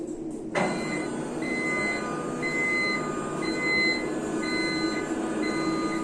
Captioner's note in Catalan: pip, pip, pip